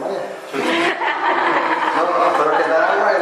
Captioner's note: laughter